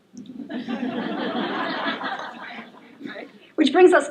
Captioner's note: laughter